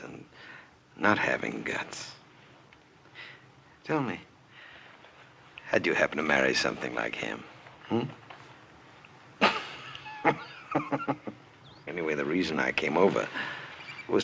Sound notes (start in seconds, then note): 9.4 Belcher snickers